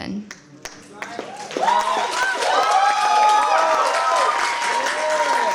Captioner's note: cheers, applause